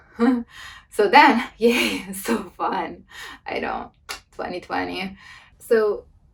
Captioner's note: laughs; laughs